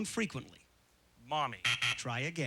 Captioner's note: buzzer